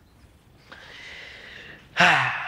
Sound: deep Inhale; deep Exhale

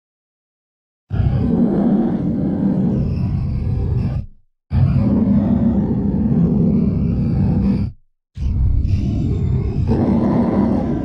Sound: monster roar

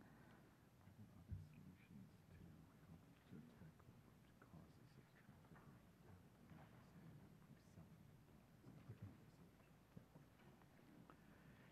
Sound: whispering

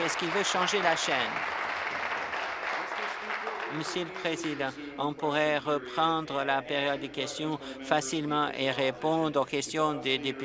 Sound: applause

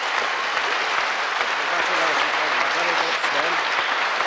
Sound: applause

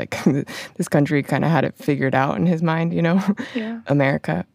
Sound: laughs

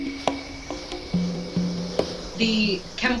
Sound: gas spraying

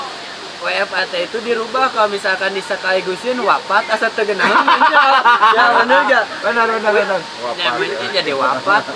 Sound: laughs

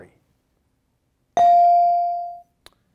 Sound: bell rings

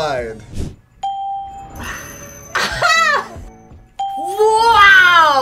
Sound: bell rings; laughs

